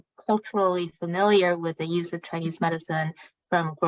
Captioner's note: speaking chinese